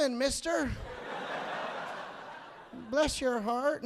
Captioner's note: audience laughing